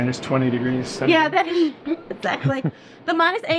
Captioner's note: laughs